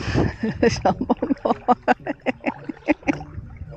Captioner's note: laughing